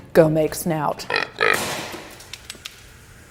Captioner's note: egg splatting